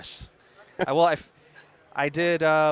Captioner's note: laughing